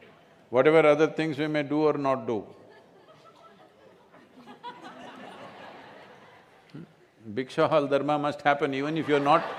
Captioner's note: laughter